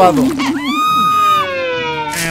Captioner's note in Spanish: grito